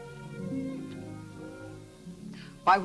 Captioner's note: lips smack